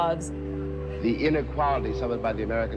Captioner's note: soundbite of archived recording